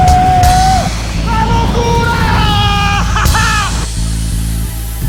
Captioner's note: hollering; upbeat rock music